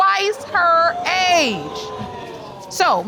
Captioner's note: audience exclaiming